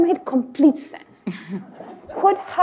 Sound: audience laugh

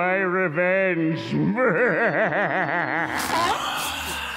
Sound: laughing

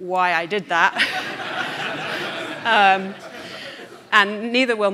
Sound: audience laughing

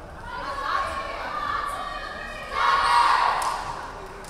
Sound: players chanting

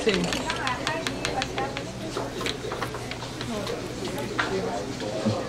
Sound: background chatter

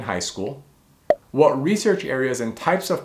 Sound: bubble popping

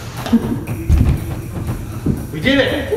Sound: thud

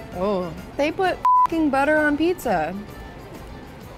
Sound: beep

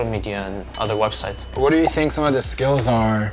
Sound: bell dinging

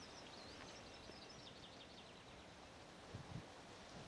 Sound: more bird song

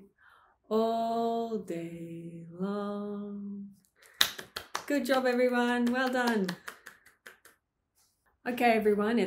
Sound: clapping

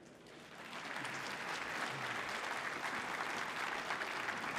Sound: audience applauding

